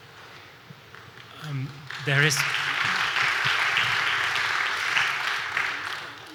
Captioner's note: claps